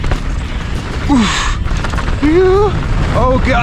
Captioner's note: grunting